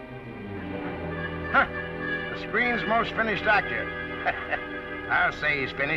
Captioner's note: chuckles